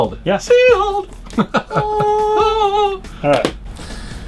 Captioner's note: laughing